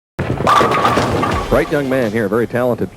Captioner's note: pins knocking